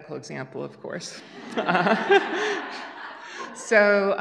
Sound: laughter

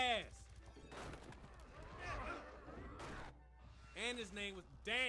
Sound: gunshots and clattering

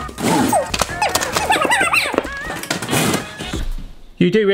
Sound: squeaking voices; clanging

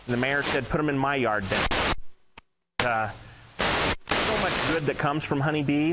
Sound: microphone interference

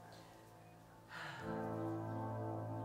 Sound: sighs

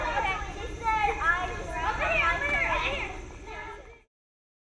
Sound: sounds of children playing

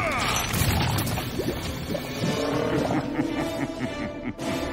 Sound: evil chuckling

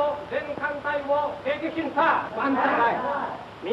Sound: Japanese language

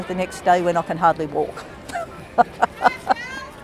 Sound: laughter

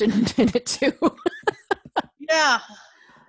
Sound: laughs

